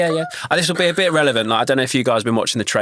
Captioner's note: gasps